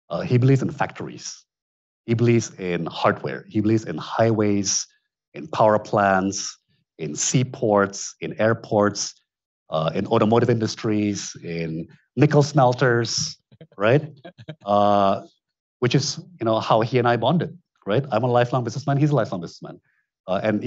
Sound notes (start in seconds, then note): 14.6 attendee chuckling